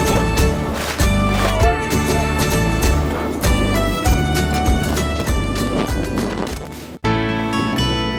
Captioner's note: laughs